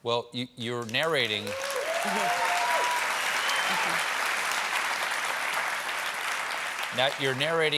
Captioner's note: cheers and applause